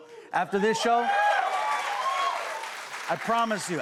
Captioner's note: cheers and applause